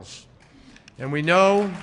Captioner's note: applause